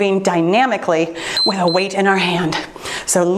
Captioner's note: timer beeps